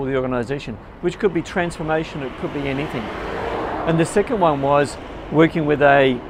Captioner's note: conversation